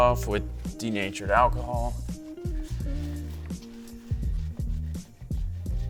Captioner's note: cloth rubbing